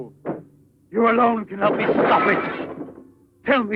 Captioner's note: clattering